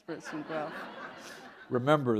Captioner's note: laughter